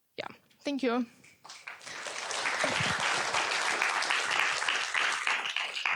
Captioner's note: applause